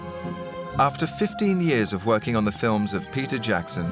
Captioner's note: voiceover